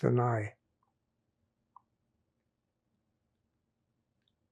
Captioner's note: pauses 6 seconds